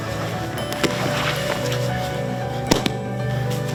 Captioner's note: thudding